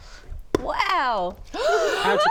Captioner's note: gasp!